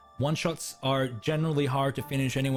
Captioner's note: none